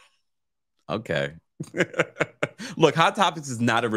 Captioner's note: laughs